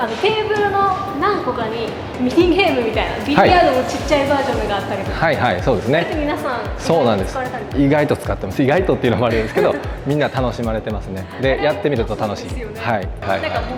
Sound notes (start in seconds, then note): 9.0 laugh